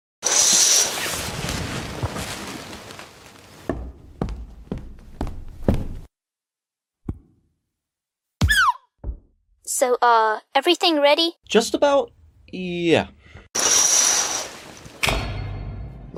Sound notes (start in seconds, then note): 0.2 curtains slide closed; 13.6 curtains slide open; 15.0 suspenseful music cue